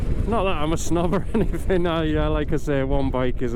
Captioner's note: laughing